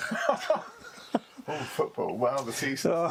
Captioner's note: both laughing